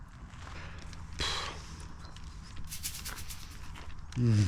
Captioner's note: exhales sharply